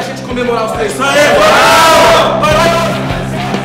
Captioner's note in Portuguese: gritos de euforia